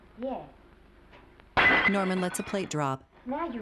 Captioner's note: plate breaking